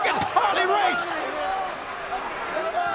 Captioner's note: crowd yelling